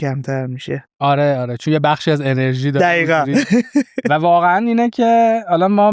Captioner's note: laughs